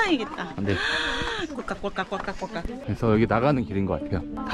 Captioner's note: the sound of drinking beer